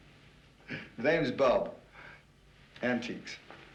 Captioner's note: chuckling